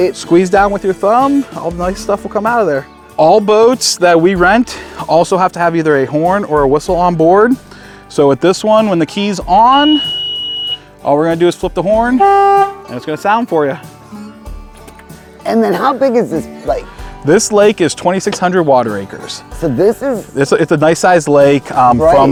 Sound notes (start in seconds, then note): 9.5 boat beeping; 12.0 horn honking; 13.8 bright music